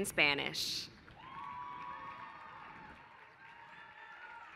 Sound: applause

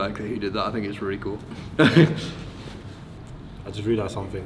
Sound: chuckles

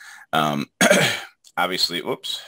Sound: clears throat

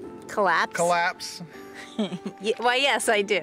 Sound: woman laughs

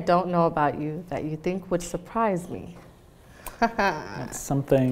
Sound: laughs

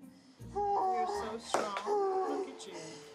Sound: moaning

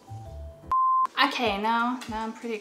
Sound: long beep

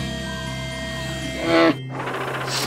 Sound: grunting; sniffing

